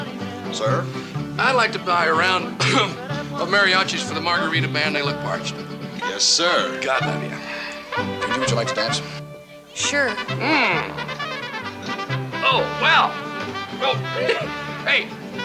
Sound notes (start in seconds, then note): 2.4 coughs